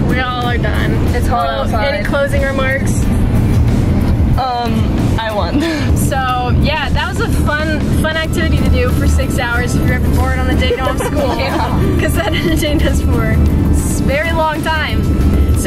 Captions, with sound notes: We all are done. Bella, any closing remarks? - I won. - So, yeah, that was a fun activity to do for six hours if you're ever bored on a day off school. (laughing) - Yeah. - Cause that entertained us for a very long time.